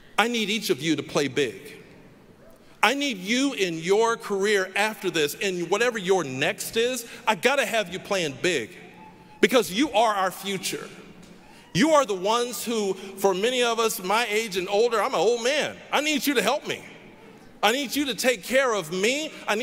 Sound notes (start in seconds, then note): none